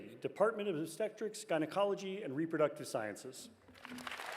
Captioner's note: cheers and applause